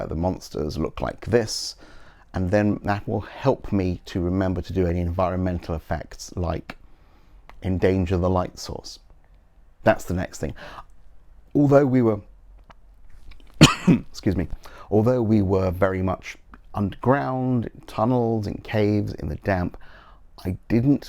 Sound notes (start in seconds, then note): 13.6 cough excuse me